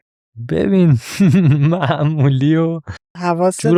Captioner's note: laughs